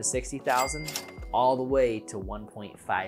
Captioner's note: cash register dings